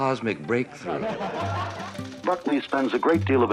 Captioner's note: audience laughing